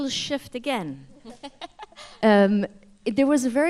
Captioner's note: laughter